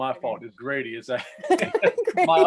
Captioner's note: laughter